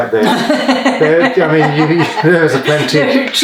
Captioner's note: laughs